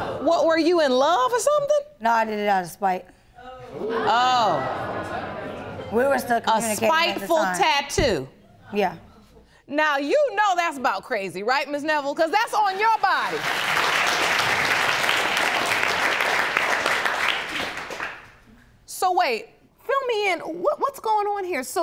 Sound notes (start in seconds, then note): 0.0 audience gasps; 3.7 audience murmuring; 12.8 audience applauding